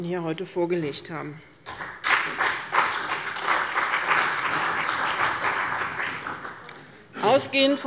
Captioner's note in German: Beifall bei dem BÜNDNIS 90/DIE GRÜNEN und der CDU